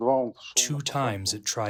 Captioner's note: through translator